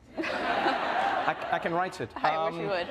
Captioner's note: group laughing